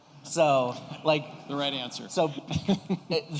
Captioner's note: laughter